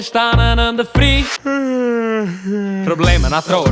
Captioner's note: yawwwn